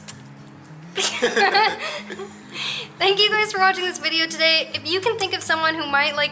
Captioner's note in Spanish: Risas